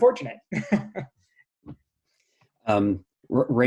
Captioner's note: laughing